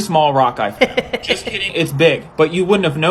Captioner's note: chuckles